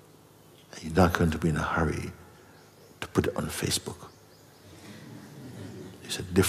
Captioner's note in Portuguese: risos